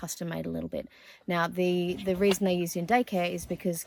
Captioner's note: rustle, rustle